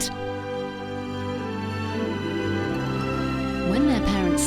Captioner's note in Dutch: none